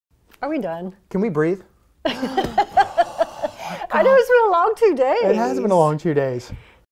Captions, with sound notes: Are we done? Can we breathe? (Laughter) I know, it has been a long two days. It has been a long two days.